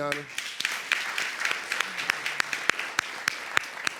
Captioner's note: audience applauding